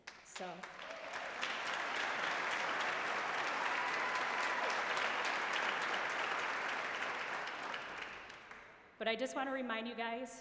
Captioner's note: applause